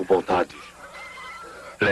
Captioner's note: pigs squealing